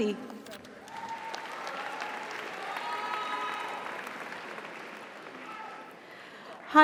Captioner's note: audience applauds; audience cheers